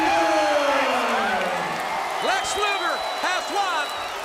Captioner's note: crowd cheering